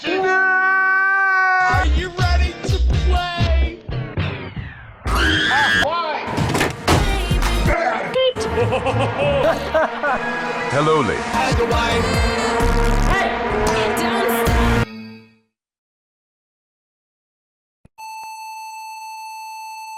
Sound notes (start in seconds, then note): 8.4 laughter